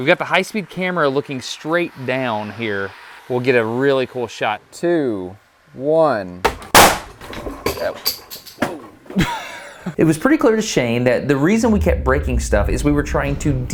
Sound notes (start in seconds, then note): 6.5 bat fires